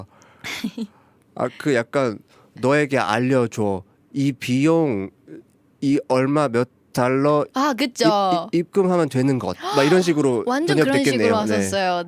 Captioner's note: broken Korean